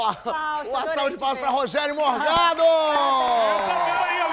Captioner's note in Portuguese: aplausos